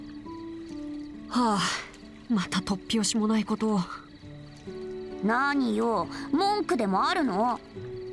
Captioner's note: sigh